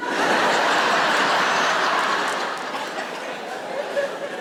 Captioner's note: audience laughs